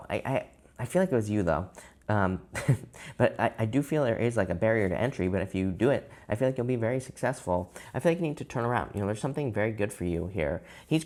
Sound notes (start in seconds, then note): 2.5 chuckles